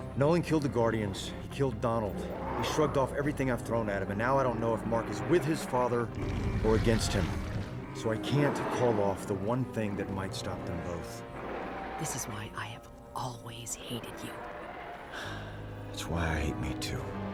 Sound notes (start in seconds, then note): 15.0 sighs